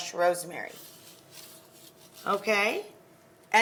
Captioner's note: crumbs crunching